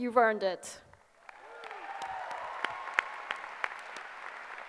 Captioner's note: applause